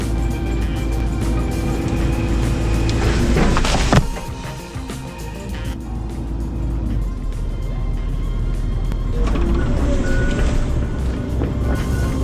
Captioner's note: engine revving